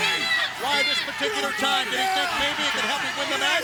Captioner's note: Tank yelling